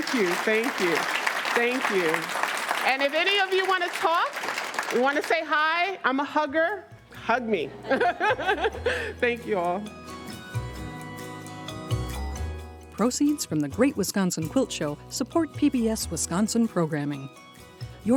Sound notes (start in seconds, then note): 0.0 audience applauds; 7.7 laughs; 10.4 bright music